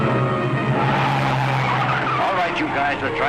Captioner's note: tires squealing